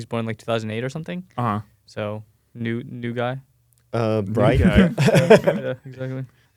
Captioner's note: laughs